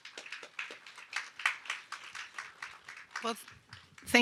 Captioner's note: audience applauds